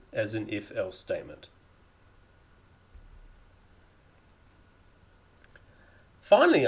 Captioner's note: clicking sounds